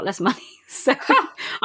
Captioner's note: laughs